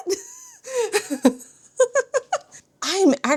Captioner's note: laughs